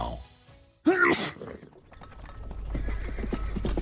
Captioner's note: sneeze; hooves approaching